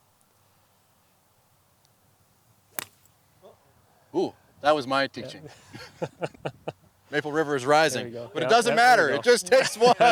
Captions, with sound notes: Oh. That was my teaching. (laughs) Maple River is rising but it doesn't matter! It just takes one!